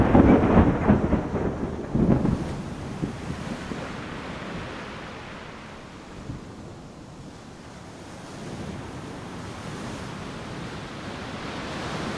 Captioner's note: heaai rn patt ering